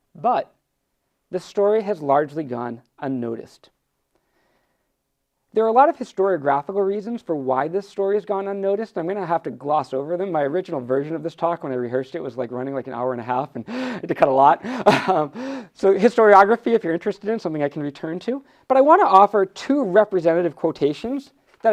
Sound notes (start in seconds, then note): 14.7 laughs